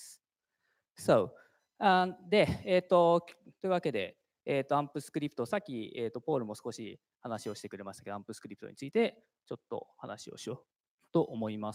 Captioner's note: speaking japanese